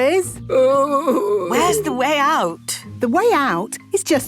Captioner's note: groaning